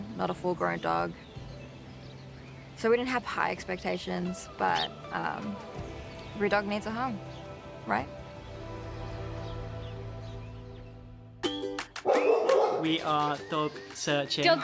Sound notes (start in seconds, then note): 11.6 bright music; 12.0 dog barking